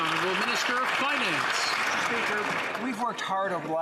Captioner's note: some Applause